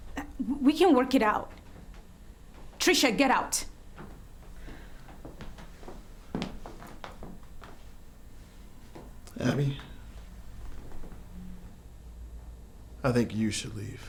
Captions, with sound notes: We can work it out. Trisha, get out. (footsteps tapping) - Abby, I think you should leave.